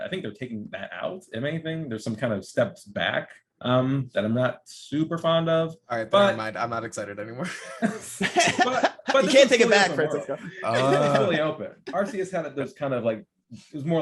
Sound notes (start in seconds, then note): 7.5 laughing